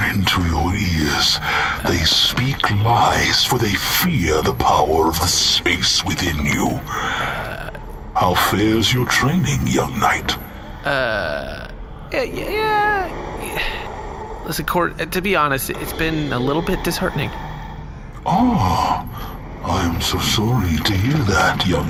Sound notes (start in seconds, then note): 11.6 hesitant